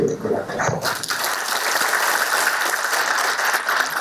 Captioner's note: applause